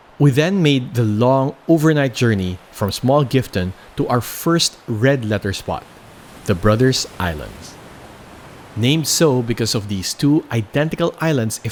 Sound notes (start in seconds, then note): none